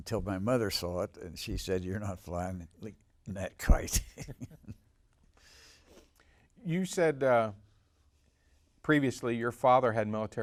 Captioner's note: laughs